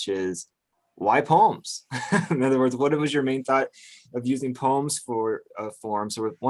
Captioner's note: laughs